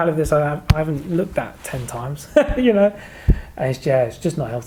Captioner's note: laughing